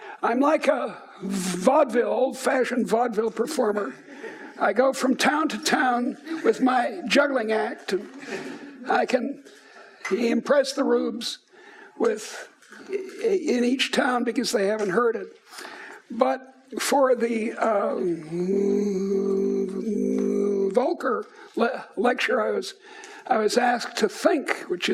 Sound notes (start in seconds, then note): 17.9 moans